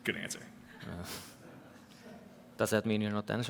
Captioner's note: laughter